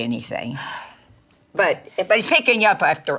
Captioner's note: Dory exhales